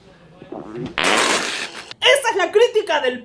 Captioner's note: gulp; pppppttttt!!!!